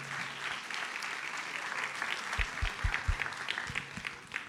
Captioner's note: audience applauds